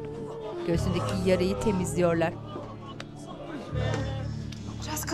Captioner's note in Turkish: İnleme sesleri